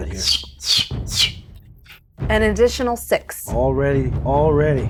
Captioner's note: whistles